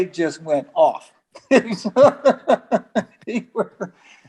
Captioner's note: laughs